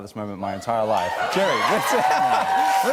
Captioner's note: laughs